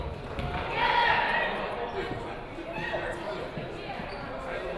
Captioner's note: players shouting